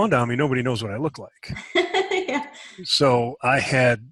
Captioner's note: laughs